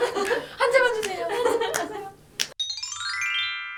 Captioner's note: clap!